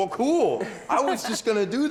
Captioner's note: laughing